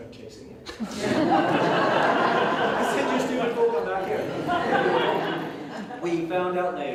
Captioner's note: audience Laughing